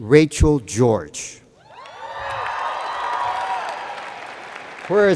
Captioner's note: cheers and Applause